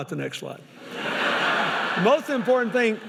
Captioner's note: laughing